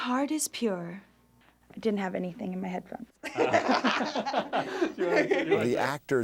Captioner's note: laughing